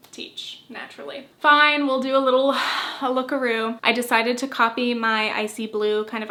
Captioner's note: sigh